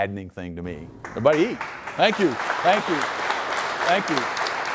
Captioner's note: applause